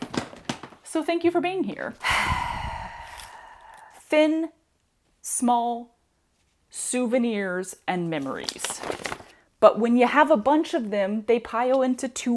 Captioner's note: sigh